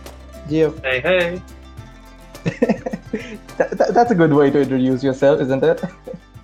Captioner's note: laugh